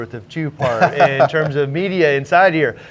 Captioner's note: laughs